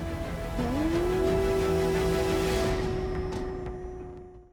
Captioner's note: imitates wolf howl